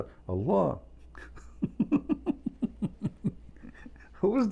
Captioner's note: Ketawa